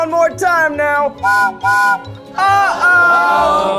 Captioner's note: whistle blows